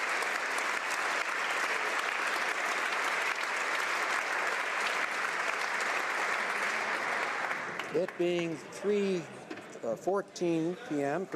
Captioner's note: applause